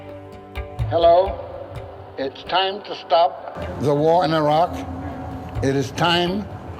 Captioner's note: amplified voice